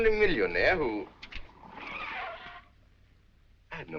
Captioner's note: tires squealing